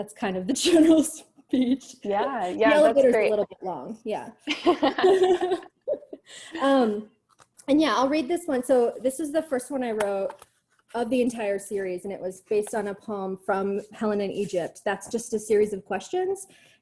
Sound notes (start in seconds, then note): 1.6 chuckles; 4.4 laughter